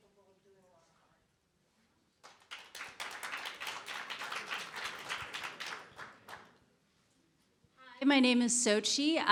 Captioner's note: applause